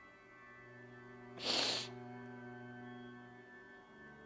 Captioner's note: sniffing